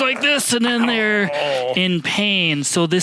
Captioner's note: groaning